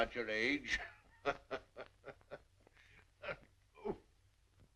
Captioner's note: laughing